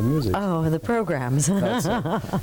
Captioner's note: laughs